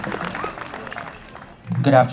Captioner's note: applause